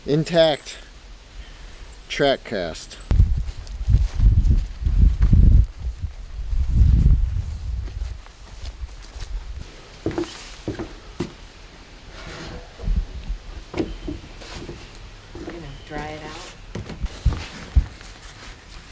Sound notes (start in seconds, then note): 3.1 wind whooshing; 10.4 footsteps clopping